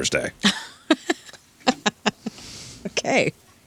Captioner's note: laughter